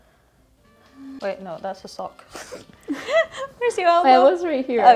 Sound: laughing

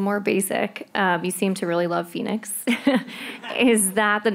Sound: laughs

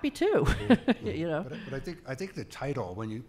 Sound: laughing

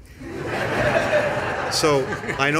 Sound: laughter

